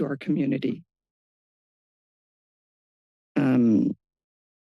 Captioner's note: pause